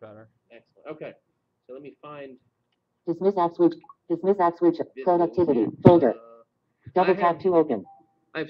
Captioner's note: Siri talking